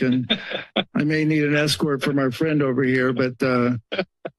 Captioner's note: laughter